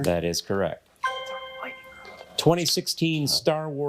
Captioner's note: bell dings